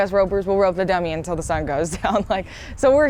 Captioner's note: chuckles